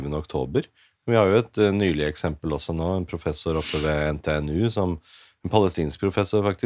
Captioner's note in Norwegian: snøfter